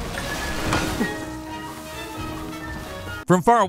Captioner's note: tree thumping